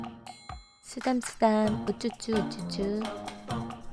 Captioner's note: pat pat